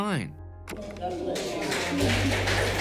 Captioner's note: clapping